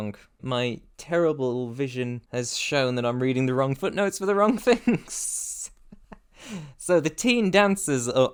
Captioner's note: chuckling